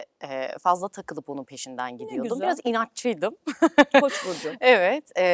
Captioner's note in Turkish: kahkaha